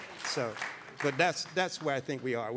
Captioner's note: audience applauding